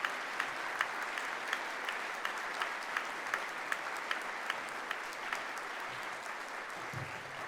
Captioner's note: applause